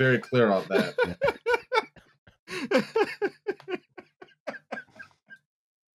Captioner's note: continues laughing